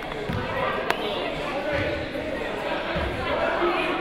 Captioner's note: crowd murmuring